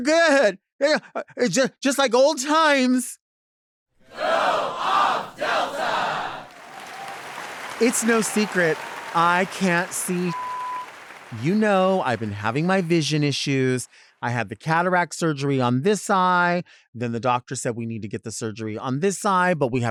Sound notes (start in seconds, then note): 6.8 audience cheering; 10.3 beep